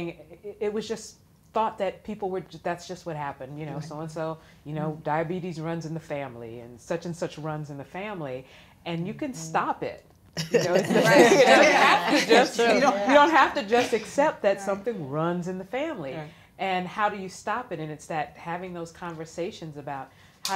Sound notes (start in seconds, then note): 10.4 all laughing